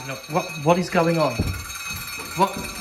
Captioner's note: creepy metallic rapid noises